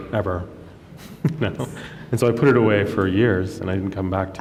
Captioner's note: chuckles